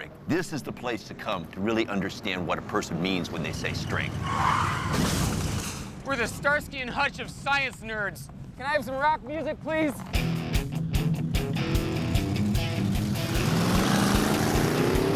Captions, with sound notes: This is the place to come to really understand what a person means when they say "strength." (brakes screeching, crash) We're the Starsky and Hutch of science nerds. Can I have some rock music, please? (engine revving)